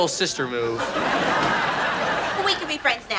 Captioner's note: laughs